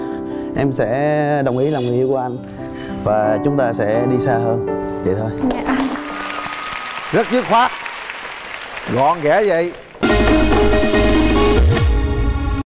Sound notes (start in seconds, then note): 5.5 audience applause